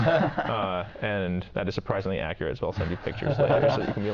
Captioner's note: laughing